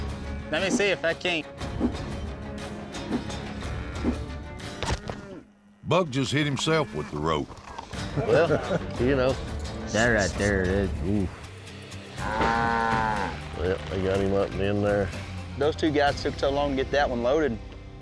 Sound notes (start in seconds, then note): 12.1 bellowing